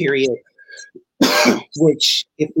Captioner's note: coughs